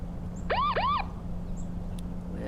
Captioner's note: siren sounding